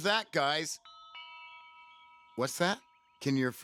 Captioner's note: bell rings